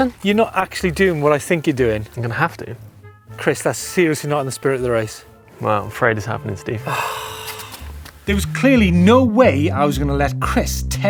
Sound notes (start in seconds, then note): 6.8 sighs heavily